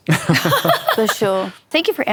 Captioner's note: laughter